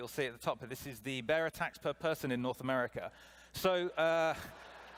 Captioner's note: laughter